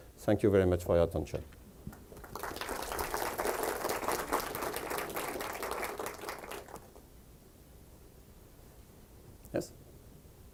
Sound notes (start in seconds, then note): 1.9 audience applauds